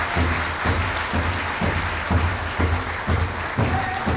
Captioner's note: clapping; drumming